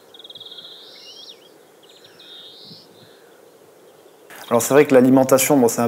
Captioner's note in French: chants d'oiseaux